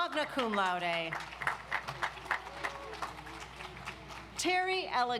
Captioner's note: audience applauds